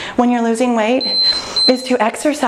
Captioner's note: timer beeping